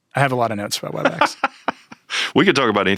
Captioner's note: Chuck laughing